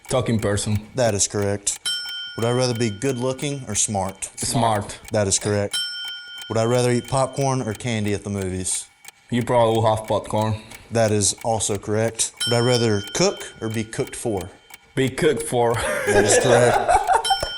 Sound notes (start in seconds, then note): 1.8 ding; 5.7 ding; 12.4 ding; 15.7 laughs; 17.2 ding